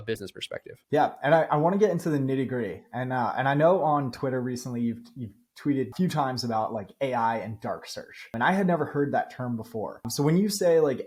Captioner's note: speaking